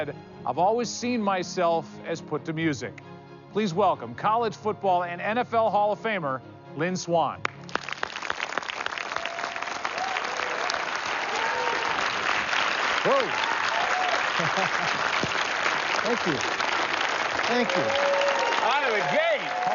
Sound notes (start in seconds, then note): 8.5 cheers and applause; 14.1 laughs